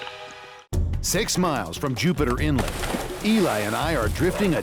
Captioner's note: water splashing